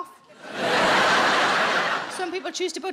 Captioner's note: audience laughing